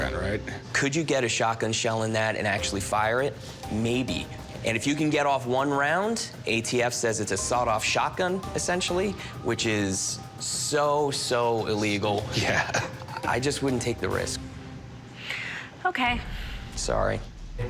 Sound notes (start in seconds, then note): 12.4 Corey laughs